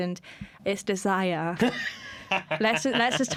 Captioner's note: laughter